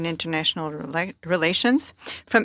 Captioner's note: speaking French